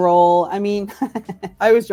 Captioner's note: laughs